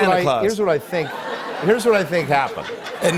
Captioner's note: laughter